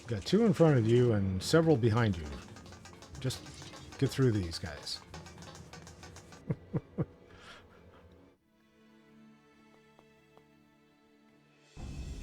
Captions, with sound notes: Got two in front of you and several behind you. Just get through these guys. [laughs]